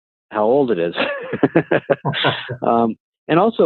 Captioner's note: laughing